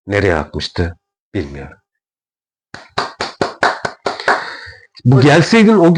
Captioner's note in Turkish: alkış